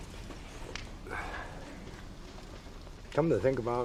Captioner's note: he sighs